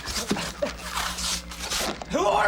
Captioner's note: tape ripping